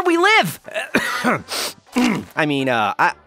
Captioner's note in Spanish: tose y se suena los mocos